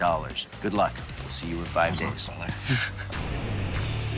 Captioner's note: chuckles; rock music